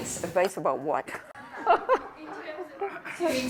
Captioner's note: laughs